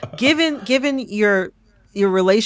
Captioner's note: laughter